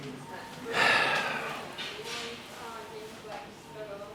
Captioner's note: sighing